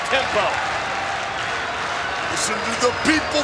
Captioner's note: audience applauds and chants